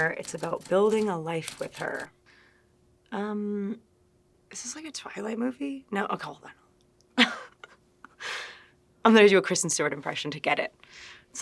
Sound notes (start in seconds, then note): 7.2 Kristen chuckling